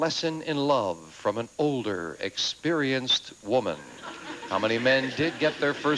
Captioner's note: audience laughing